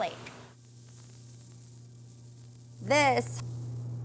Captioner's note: salt tinkling